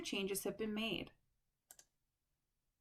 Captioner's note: click